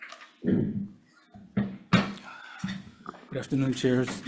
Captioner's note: chair grates